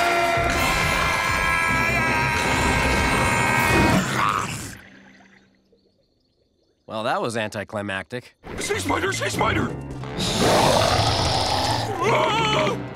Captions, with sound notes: [screaming] Well, that was anticlimactic. Sea spider! Sea spider! [roaring] [screaming]